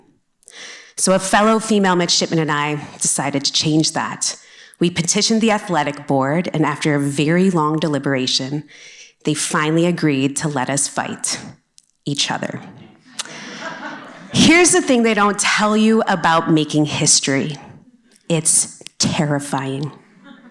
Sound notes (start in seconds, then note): 13.1 laughter